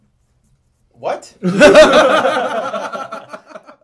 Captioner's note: laughing